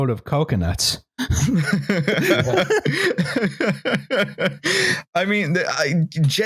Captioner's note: laughter